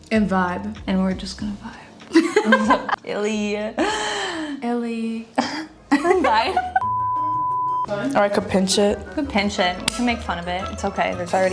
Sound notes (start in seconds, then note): 2.1 both laughing; 6.8 long beep